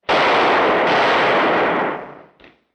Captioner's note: gunshots